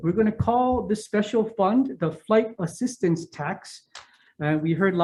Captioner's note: none